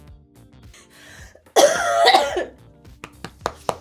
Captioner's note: coughs